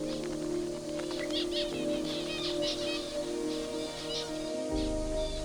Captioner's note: birds warble